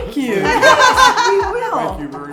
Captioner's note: group laughing